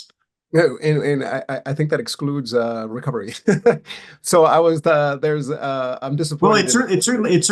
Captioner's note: laughs